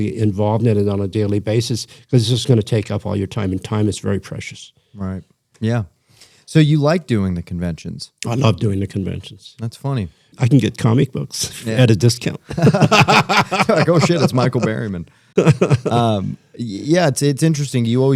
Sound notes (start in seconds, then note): 12.4 laughter